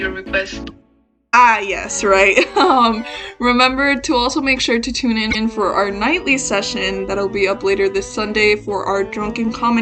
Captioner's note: embarrassed laughter